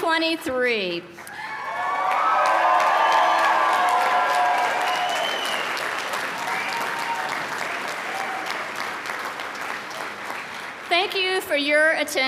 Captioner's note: cheering and applause